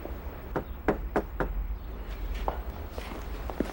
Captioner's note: knocking